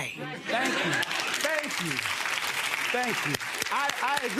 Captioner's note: audience applauds